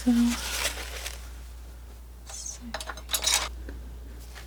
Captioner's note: scratching